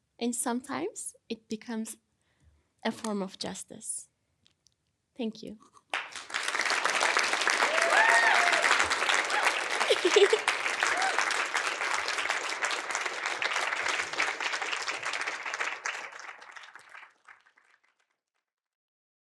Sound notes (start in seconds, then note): 6.8 audience applauding; 6.8 audience cheering; 9.8 chuckling